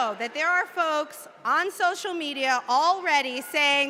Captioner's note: cheers and applause